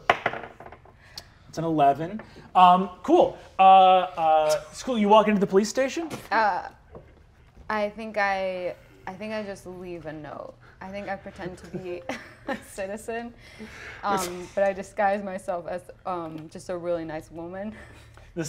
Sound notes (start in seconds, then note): 0.0 die taps table; 11.4 chuckles